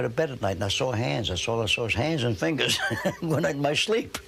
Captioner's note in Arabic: يضحك